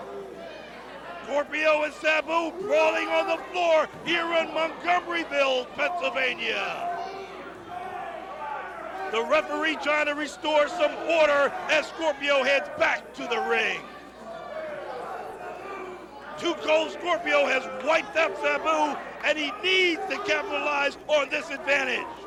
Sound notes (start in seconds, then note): 0.3 crowd chatter; 11.5 crowd chatter